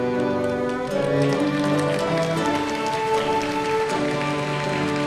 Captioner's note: audience applauding